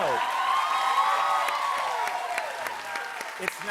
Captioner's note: cheers and applause